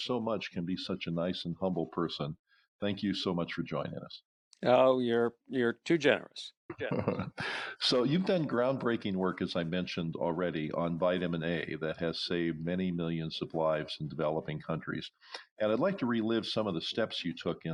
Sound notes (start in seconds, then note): 6.8 giggles